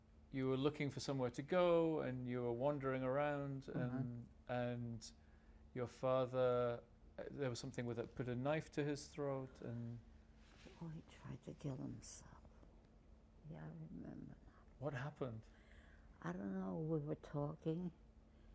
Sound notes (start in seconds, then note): 11.1 whispering